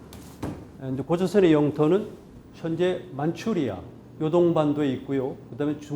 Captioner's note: speaking in Korean